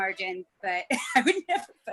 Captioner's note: chuckles